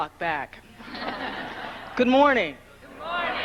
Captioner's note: congregation laughing